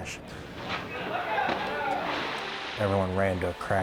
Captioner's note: water splashes